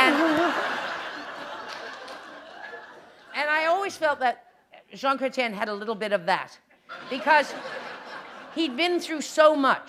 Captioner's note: laughter